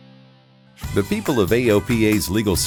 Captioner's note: man On Voice-Over